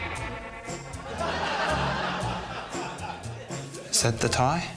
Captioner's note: laughter